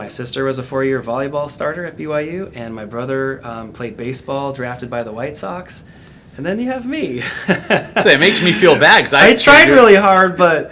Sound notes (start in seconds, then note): 7.2 laughs